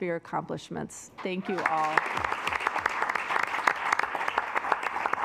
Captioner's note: assembly clapping